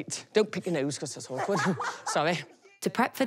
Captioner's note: laughs